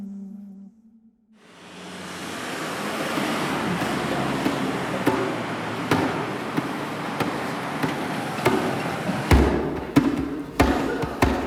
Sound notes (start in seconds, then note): 2.0 traffic sounds; 9.4 drumming